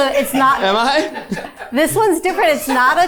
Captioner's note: crew member chuckling